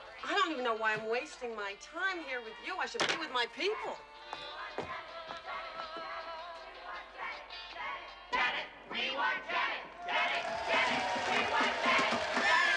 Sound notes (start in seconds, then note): 5.1 Зрители скандируют; 10.1 Аплодисменты